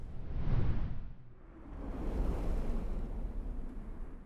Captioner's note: logo whooshes